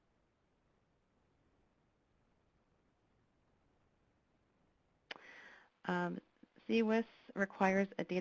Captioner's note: pause